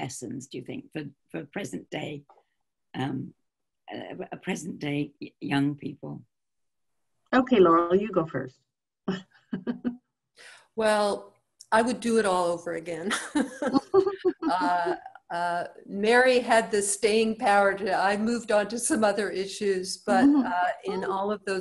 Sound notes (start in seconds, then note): 9.1 chuckles; 15.5 chuckle